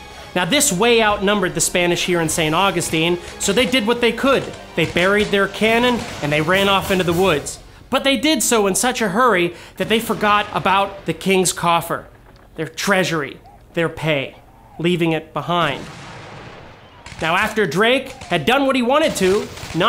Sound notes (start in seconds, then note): 4.8 guns fire men yelling; 15.6 gun fire